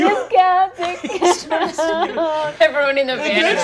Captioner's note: sobbing